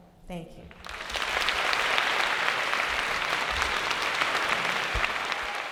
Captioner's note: applause